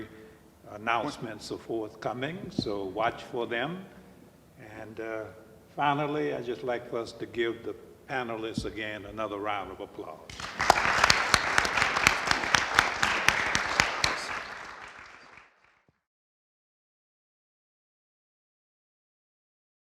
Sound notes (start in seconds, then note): 10.3 audience applauding; 10.3 panel applauding